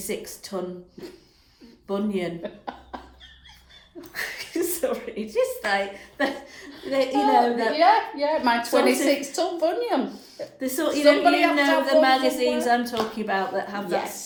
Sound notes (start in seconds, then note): 2.2 giggles